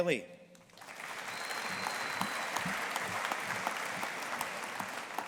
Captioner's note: audience applauding